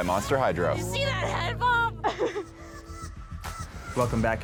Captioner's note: laughs